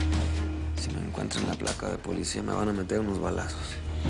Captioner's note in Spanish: En voz baja